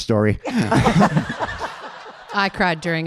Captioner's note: audience laughing